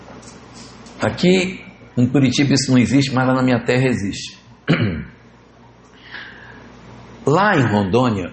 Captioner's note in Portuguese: limpando a garganta